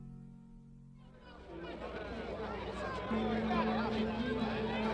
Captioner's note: crowd noises